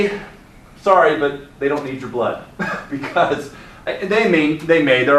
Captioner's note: laughs